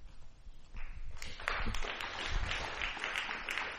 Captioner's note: applause